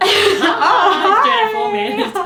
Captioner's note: laughs